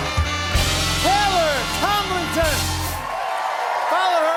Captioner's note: cheers and applause